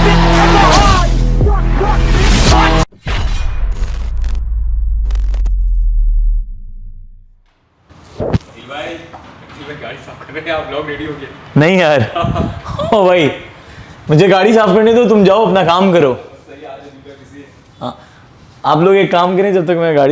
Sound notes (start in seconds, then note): 12.0 laughing; 12.0 laughs; 15.5 chuckles